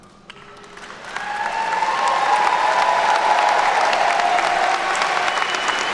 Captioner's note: attendees cheer and clap